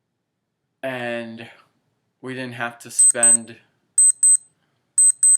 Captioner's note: beeping; beeping